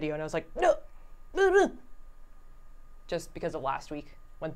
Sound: grunts

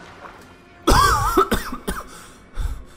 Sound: cogh

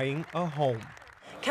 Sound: speaking French

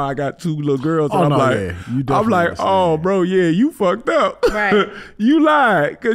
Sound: laughing

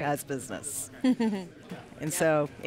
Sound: laughter

